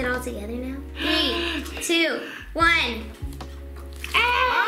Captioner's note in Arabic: الشهقات